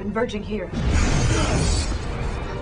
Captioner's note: explosion